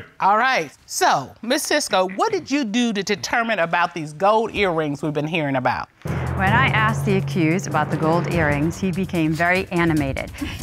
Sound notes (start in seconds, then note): none